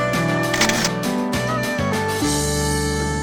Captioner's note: camera shutter clicks